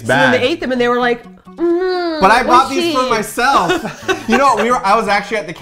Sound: laughs

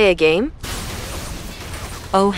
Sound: video game action sounds

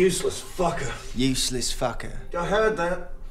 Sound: mocking

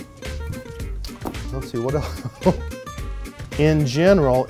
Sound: laughs

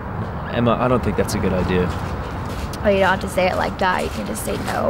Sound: none

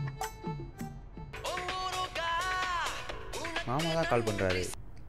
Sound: phone ringing " "

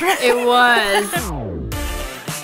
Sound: laughs; bouncy music

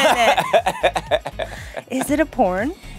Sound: laughs

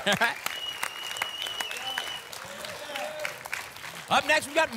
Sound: laughs; applause and cheering

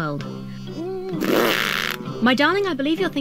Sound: blows raspberry

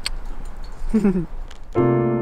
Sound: chuckles; relaxed jazzy Christmas music

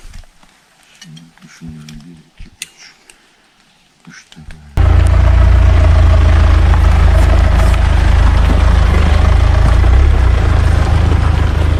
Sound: car noise

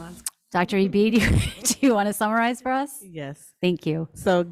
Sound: laughs

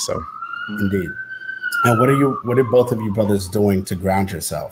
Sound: siren

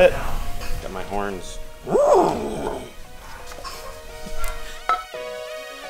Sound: imitates bull grunting sound; synthesized music

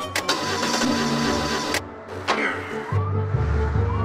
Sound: car engine revs

